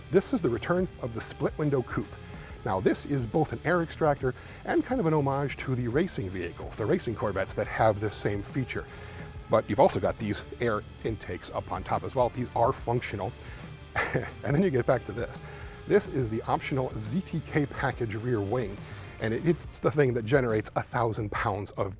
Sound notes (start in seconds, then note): 13.9 chuckles